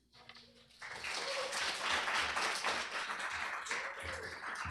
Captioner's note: applause